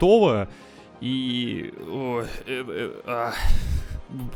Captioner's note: grunting